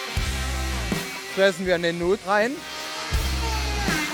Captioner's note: German